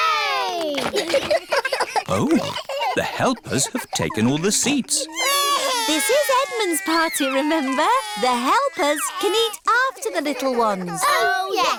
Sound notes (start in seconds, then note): 0.8 giggles; 5.0 babies crying